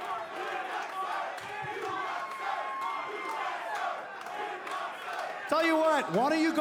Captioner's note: fans chanting